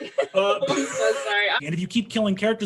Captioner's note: everyone laughs